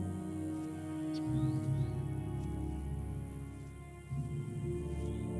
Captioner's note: birds trilling